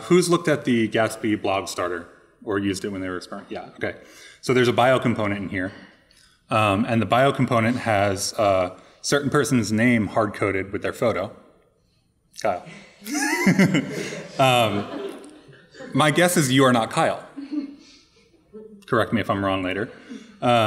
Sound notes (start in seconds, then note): 13.0 laughing; 13.0 audience laughing